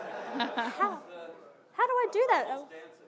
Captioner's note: audience laughing